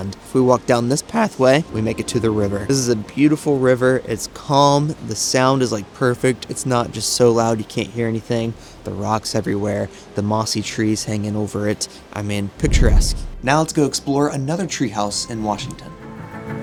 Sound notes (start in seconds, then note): 12.6 logo whooshing; 16.1 gentle music; 16.1 water flowing